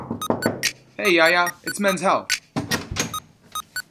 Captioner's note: knocks on door